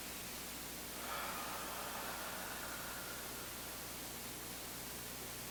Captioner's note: exhaling deeply